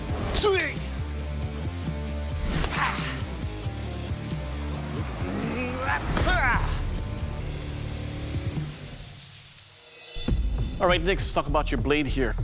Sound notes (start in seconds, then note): 5.1 grunting